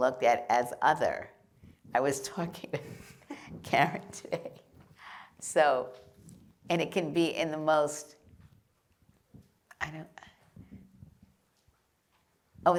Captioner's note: laughter